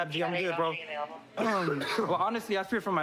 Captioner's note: coughs